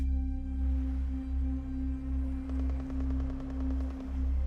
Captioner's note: distant waves crashing; distant gun fires rapidly; suspenseful music continues